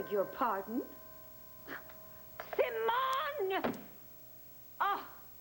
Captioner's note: ring